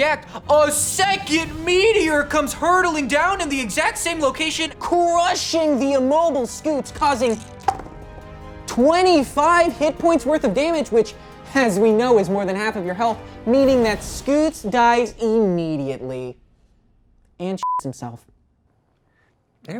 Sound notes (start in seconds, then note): 7.1 rolls dice; 17.6 beep